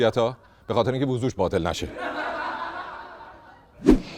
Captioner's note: laughter